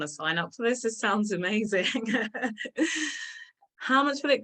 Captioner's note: laughs